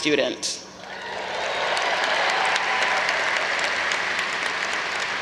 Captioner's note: audience applause